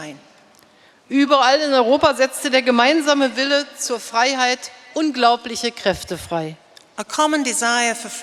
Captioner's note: speaking in German